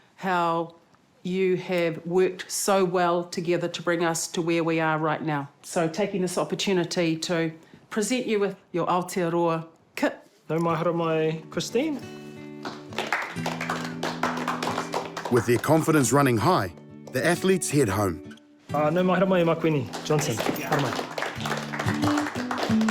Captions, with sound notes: how you have worked so well together to bring us to where we are right now. So taking this opportunity to present you with your Aotearoa kit. - Nau mai haramai, Christine. (APPLAUSE) - With their confidence running high, the athletes head home. - Nau mai haramai, Makuini Johnson. Come on up.